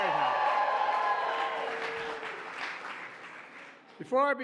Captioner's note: applause